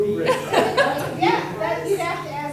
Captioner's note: everyone laughing